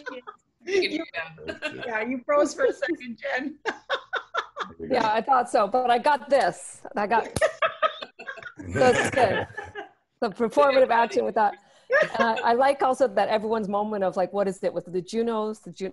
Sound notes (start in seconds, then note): 1.4 laughter; 7.2 laughter; 11.2 laughter